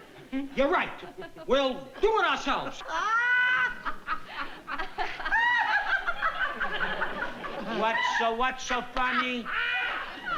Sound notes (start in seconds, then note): 3.8 laughter